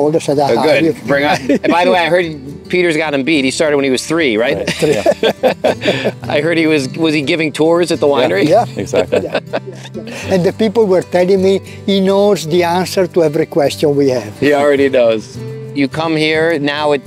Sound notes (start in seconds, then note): 1.0 laughs; 4.6 group laughs; 8.1 chuckles